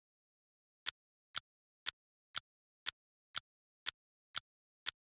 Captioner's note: clock ticking